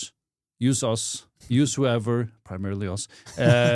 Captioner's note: friendly laughing